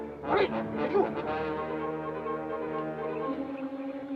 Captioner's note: soldier speaks Japanese; suspenseful music